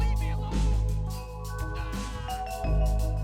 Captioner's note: ding sound